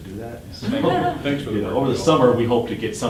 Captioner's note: class laughing